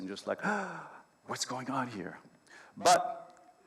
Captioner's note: gasps